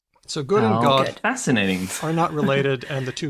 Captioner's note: chuckles